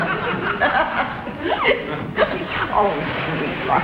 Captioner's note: Elizabeth laughs; audience laughs